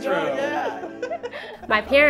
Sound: laughter

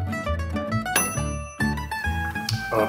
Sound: bright music; bell dings

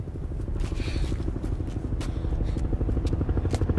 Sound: helicopter approaching

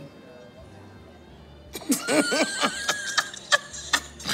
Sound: both laugh

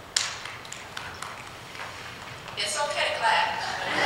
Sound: applause

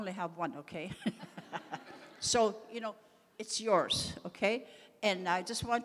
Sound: laughs

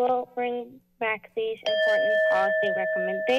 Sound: buzzer

